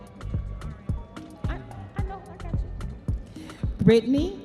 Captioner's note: audience members cheering